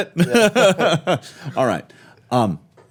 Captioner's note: laughing